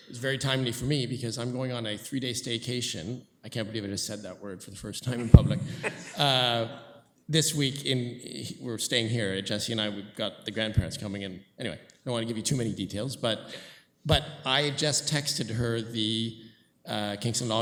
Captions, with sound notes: one is very timely for me because I'm going on a three-day staycation--I can't believe I just said that word for the first time in public-- [laughter] >> --this week in--we're staying here. Jesse and I, we've got the grandparents coming in. Anyway, I don't wanna give you too many details, but I just